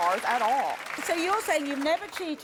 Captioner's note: audience applauds